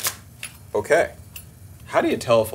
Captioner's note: shell cracks